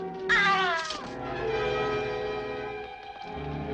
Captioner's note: men groaning